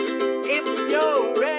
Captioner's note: silly noises